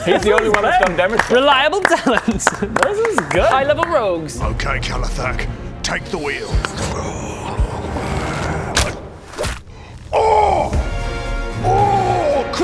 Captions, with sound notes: he's the only one that's done damage so far reliable talent! This is good High level rogues Okay Kelothac, take the wheel ~hrrrgh~ *twang* *thud* Oooooh!! Oooooooooooooggh!